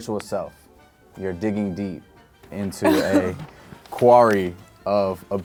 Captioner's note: laughs